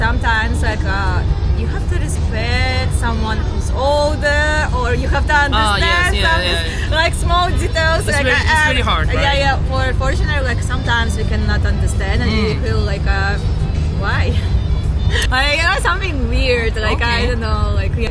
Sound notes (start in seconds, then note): 5.5 interference